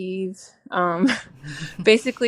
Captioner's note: laughing